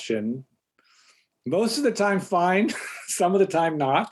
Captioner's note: chuckles